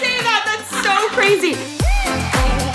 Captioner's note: laughs; upbeat music